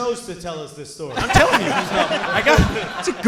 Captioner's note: audience and hosts laughing